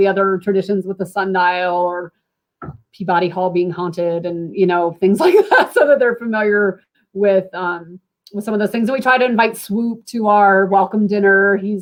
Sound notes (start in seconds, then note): 5.2 laughter